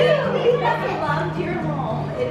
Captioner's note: chatters